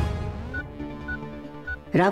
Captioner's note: Beeps on mobile